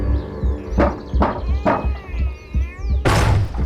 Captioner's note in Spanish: Toques en la puerta; Estruendo